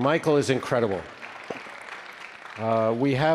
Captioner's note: attendees applause